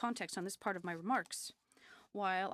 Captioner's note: speaking French